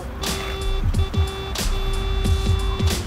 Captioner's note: car horn